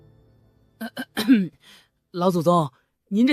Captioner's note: cough